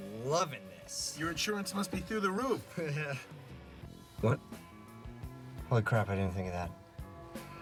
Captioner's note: chuckles